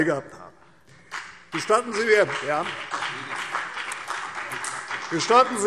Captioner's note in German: Beifall CDU und BÜNDNIS 90/DIE GRÜNEN